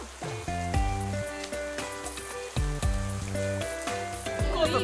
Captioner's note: giggles